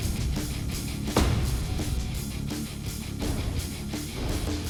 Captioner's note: thunking